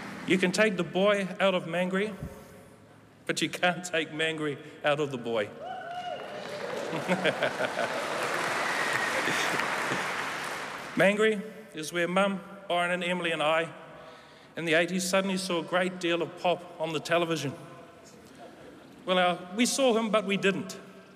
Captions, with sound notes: You can take the boy out of Māngere, but you can't take Māngere out of the boy. [Applause] Māngere is where Mum, Byron, Emily, and I in the '80s suddenly saw a great deal of Pop on the television. Well now, we saw him, but we didn't.